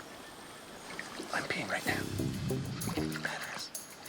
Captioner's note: whispering